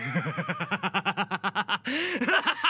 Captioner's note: maniacal Laughter